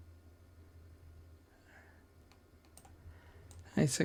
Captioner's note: silence